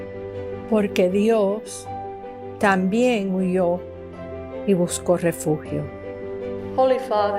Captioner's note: immigrant speaking in foreign language